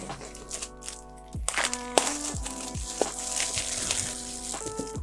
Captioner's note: paper crumpling